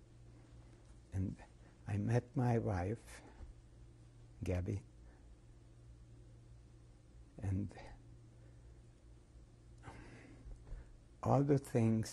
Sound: pauses for 3 seconds

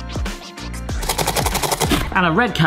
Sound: upbeat music; grater grating

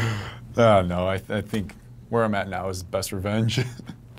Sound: laughs

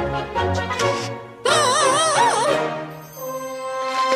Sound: screaming

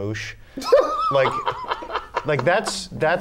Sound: laughter

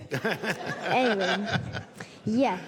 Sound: laughter

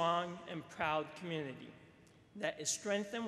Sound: none

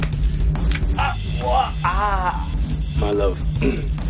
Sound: Papi cries out

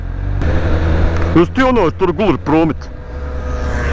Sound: thick accent

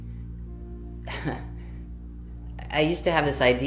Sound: chuckles

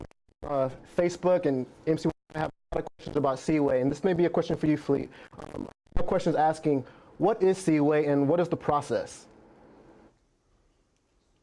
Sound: audio distorted

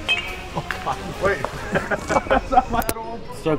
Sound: bat hits ball; laughter

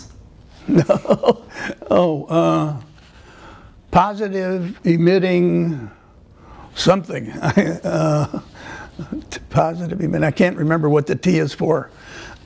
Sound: laughter

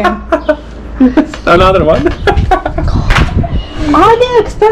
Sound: laughing

